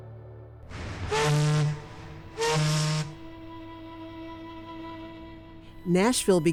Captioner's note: horn honking; gentle music